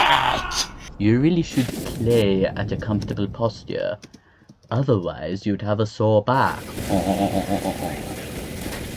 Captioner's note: snooty French laugh